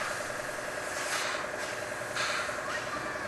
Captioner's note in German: Mehrfaches Zischen, Rattern